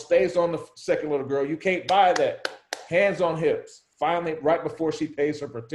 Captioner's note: claps